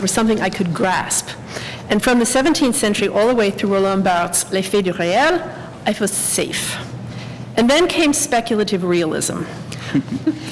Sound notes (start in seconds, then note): 5.3 french